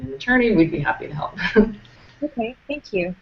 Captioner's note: chuckles